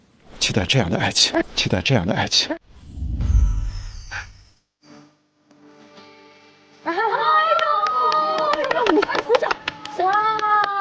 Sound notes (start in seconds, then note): 9.0 applause